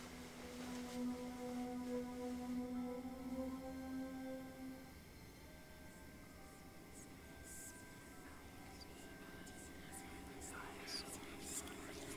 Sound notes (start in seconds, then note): 0.2 soft dramatic music; 7.5 eerie whispering